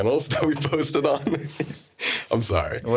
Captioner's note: laughing